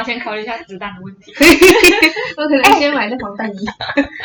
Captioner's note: laughter